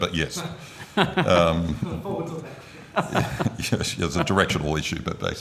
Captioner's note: committee laughs